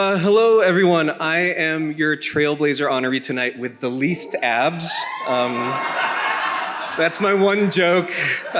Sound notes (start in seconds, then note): 3.9 attendees cheering; 4.0 attendees laughing